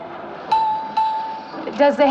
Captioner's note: salesclerk bell dings